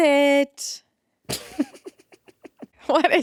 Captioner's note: laughing